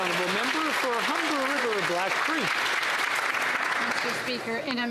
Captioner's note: some Applause